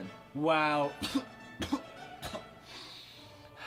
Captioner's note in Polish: kaszle